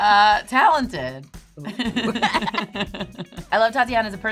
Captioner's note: laughing